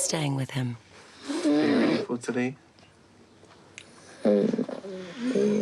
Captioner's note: wheezes